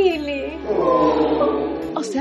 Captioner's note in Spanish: todos se conmueven